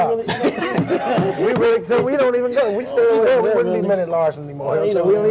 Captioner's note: laughter; laugh